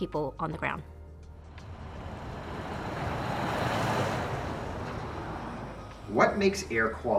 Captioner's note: sound of traffic